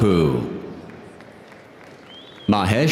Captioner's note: audience applauding